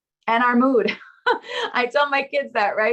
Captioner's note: laughing